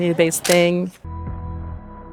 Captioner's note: shutter clicks